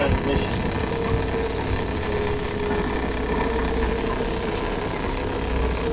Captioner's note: electricity crackling